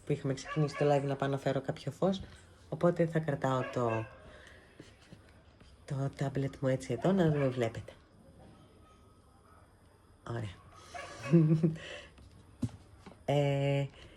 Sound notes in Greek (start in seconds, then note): 11.0 γέλια